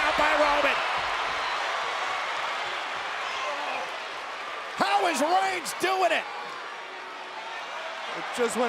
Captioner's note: applause